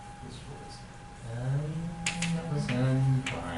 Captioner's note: murmuring